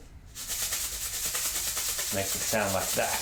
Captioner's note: shaker rattles